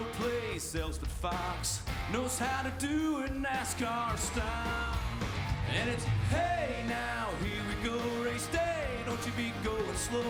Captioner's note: cheering